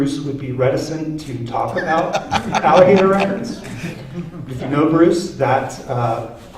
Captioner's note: laughter